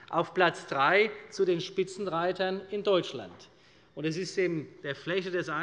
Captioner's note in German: none